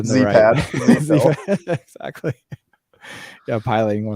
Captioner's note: laughing